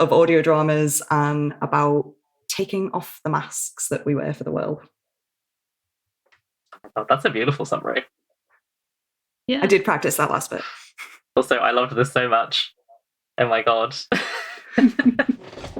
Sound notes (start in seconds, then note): 13.6 laughs